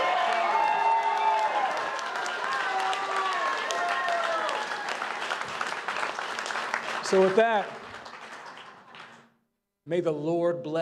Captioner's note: cheers and applause